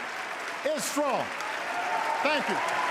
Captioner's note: applause